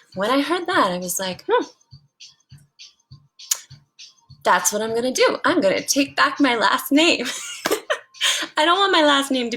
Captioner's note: laugh